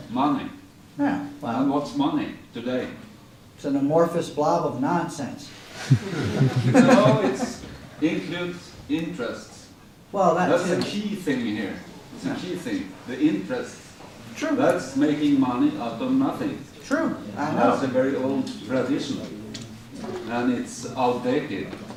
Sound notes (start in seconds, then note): 5.8 laughter